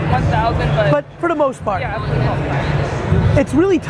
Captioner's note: faintly speaking